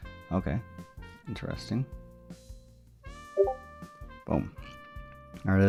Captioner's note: notification sound